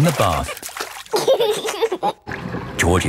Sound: giggling

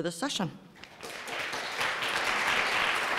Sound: applause

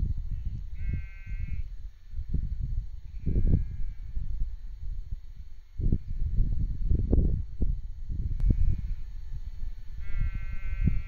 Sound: sheep bleating

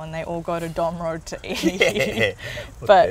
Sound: laughs

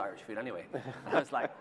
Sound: laughter

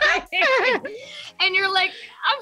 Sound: laughing

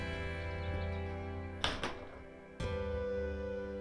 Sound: door clicks shut

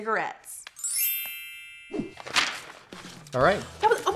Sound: tinkling sound

